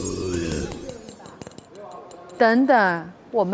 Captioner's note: Listen to the sound of double Golden Keys clinking